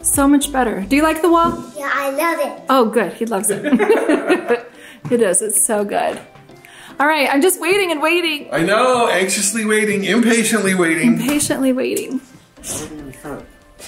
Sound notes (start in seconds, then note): 3.5 laugh